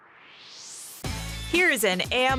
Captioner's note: swoosh